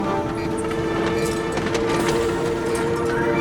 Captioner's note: dramatic music playing; rattling